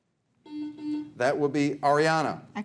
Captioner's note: buzzer buzzes